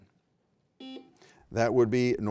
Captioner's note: beep